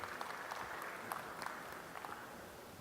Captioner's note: applause